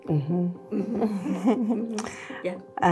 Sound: laughs

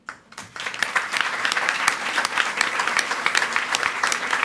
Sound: audience applauding

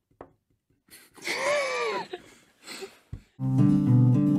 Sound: laughter; guitar music

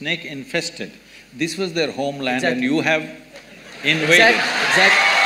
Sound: cheers

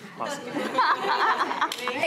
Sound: laughing

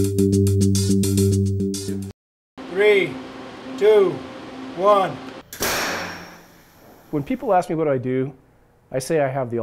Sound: sound of gun firing

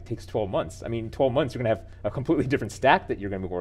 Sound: laughing

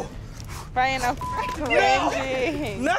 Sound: beep

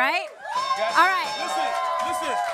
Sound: bell dinging

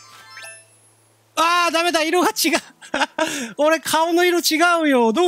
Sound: giggle

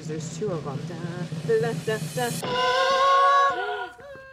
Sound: humming

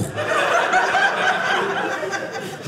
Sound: audience laughing

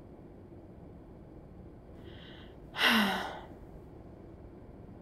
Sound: sigh

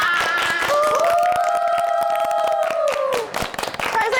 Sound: applause

